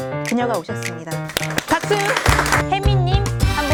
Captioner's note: applause